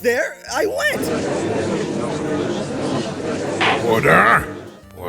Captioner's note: gallery chattering